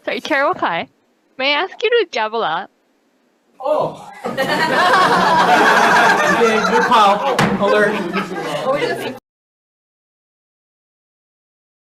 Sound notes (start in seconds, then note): 4.1 committee laughing; 7.3 gavel clanks